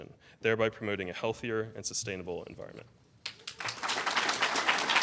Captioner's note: applause